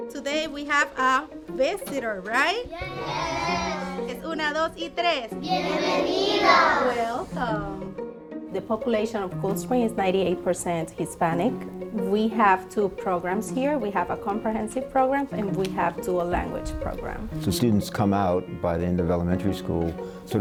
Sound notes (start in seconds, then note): 4.3 teacher and students speaking Spanish